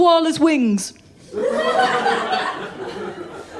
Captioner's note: laughter